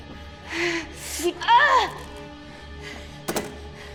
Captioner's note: none